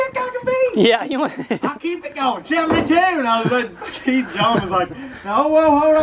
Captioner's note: man mimicking and laughing